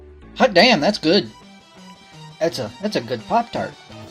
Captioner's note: none